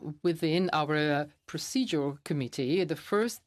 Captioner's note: speaking FRENCH